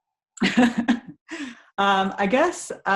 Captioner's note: chuckles